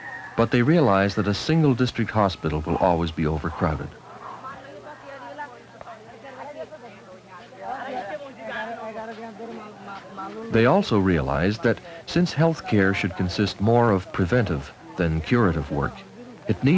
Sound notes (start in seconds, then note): 4.4 non-English speech